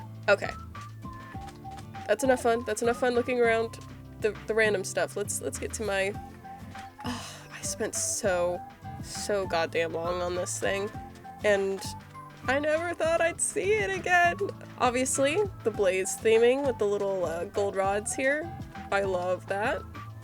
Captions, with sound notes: Okay that's enough fun - that's enough fun looking around the random stuff let's let's get to my- (sigh) I spent so, so goddamn long on this thing and I never thought I'd see it again! Obviously the blaze theming with the little gold rods here I love that